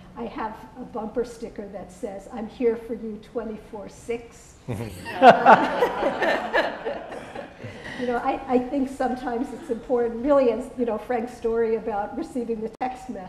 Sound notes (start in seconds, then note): 4.7 laughter